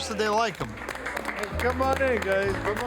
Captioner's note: staff applauding